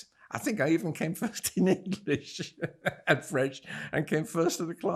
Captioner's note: laughing